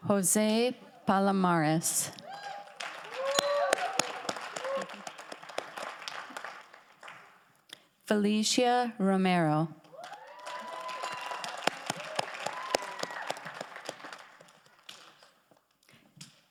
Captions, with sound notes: Jose Palomares. (audience applauds) (audience cheers) Felicia Romero. (audience applauds) (audience cheers)